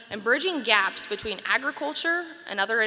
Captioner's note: none